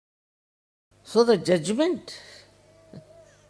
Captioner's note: laughing